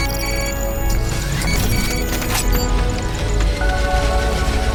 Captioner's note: beeping continues